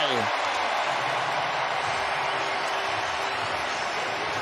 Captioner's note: cheering and applause